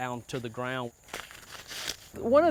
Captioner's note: sound of Corn Husk